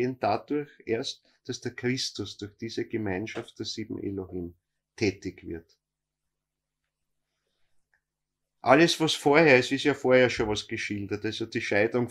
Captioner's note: speaks